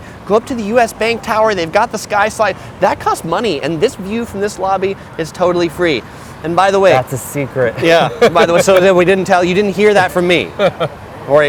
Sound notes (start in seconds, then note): 7.8 laughs